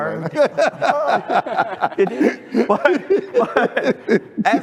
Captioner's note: laughter